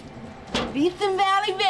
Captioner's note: grill lid slamming